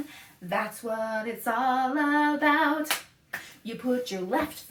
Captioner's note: clap, clap